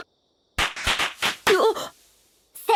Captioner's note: pops